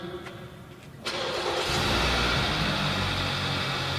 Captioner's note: car Starting